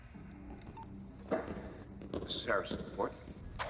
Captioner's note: phone beeps